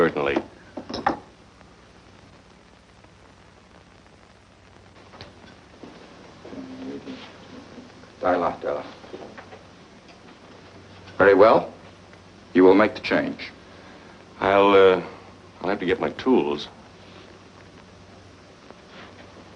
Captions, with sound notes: - Certainly. [speaks foreign language] - Very well. You will make the change. - I'll, uh, I'll have to get my tools.